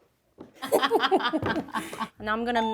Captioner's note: friends laugh